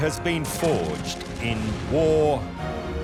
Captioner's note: ship exploding; machine gun shooting